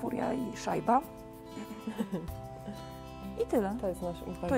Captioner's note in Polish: śmiech